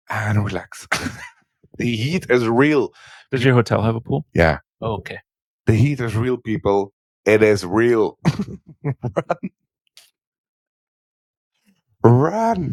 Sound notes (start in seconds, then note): 8.2 laughing